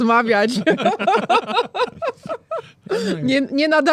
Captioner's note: śmiech